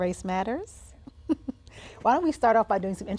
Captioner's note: chuckles